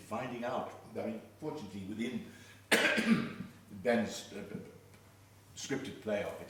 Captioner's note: coughing